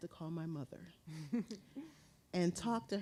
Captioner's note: chuckling